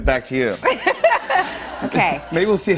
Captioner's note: laughs